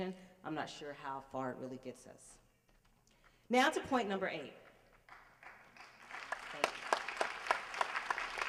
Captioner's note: applause